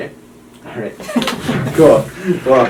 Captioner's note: patient chuckles